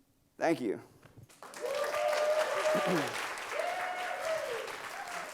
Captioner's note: crowd applauds